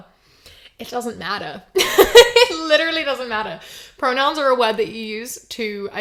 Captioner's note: laughs